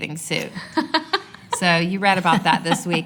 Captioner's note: laughter